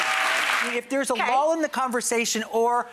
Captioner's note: cheering